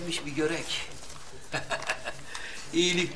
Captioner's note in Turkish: Gülme sesi